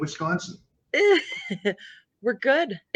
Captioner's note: laughing